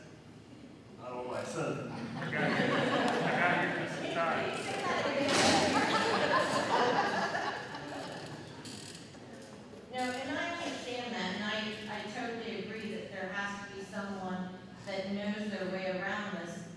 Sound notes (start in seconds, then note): 4.6 laughter